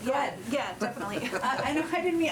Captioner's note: laughter